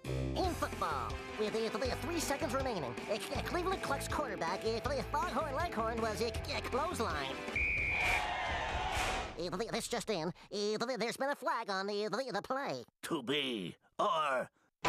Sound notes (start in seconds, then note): 7.5 whistle blowing; 7.5 audience cheering